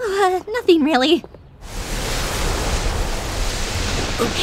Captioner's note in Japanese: 風の音